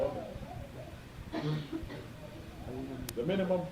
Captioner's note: laughter